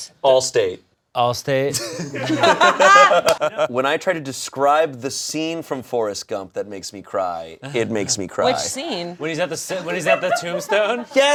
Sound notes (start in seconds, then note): 1.7 all laughing